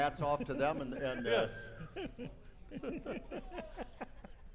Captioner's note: laughing